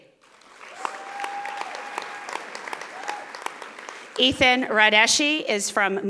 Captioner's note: audience applauding